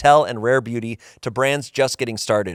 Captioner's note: none